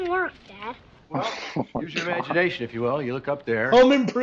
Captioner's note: laughs